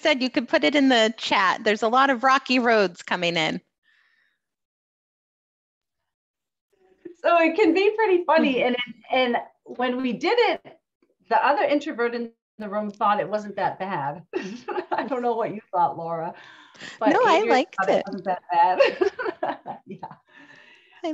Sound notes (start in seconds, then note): 17.0 laughs